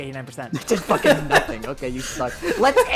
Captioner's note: multiple people laugh